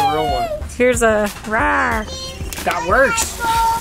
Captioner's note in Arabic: يقلد زئير الديناصورات